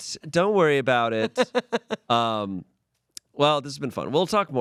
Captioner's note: laughs